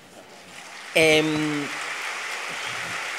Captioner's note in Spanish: applause